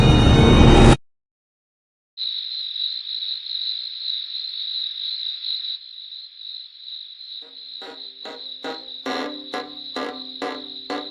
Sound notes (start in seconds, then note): 2.2 insects chirping; 7.8 eerie dramatic music